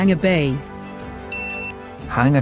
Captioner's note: chime